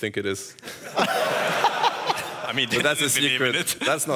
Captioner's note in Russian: смех